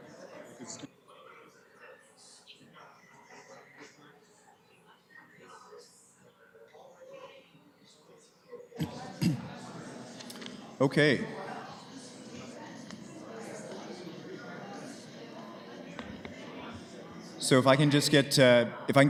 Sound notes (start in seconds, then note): 0.3 background chatter; 12.4 background chatter